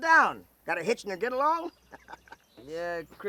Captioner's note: laughs